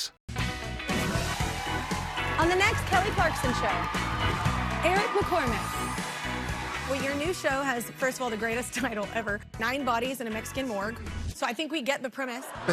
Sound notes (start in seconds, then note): 5.0 cheers; 9.0 laughter